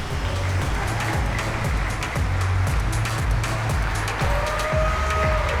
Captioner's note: audience applauding; upbeat music